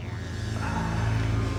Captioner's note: Joe groaning softly